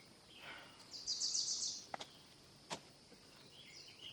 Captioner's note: Donna sighs